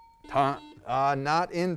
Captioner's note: buzzer; ding